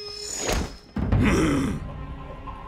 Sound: grunting

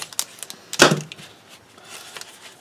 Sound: thud

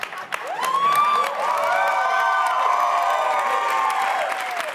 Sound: audience cheers

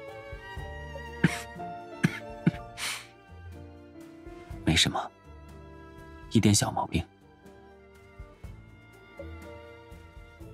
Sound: coughs

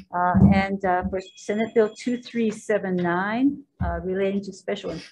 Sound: phone ringing

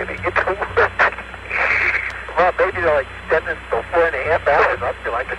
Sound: laughing; laughing

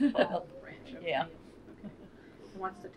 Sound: laughter

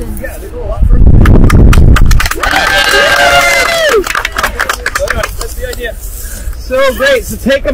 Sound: cheering

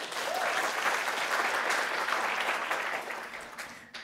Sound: applause

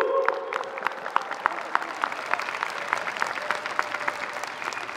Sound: audience cheering

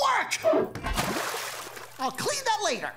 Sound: splashing

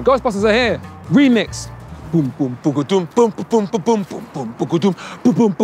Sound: humming ' " song

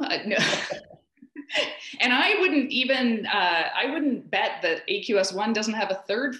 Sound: laughs

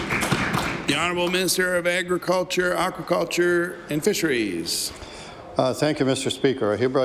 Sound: applause

